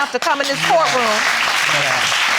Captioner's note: audience applauding